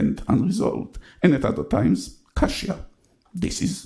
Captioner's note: speaks in foreign language